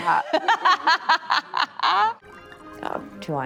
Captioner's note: Anne laughs cheerfully